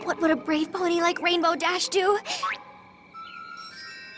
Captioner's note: gasps